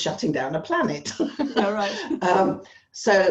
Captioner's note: both laugh